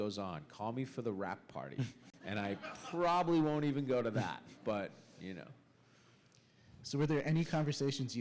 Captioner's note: laughter